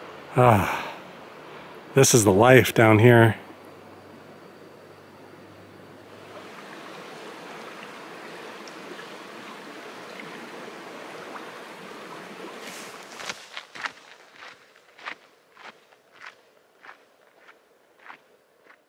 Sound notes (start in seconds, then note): 6.0 sound of rushing water; 12.6 footsteps